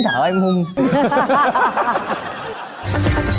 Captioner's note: laughing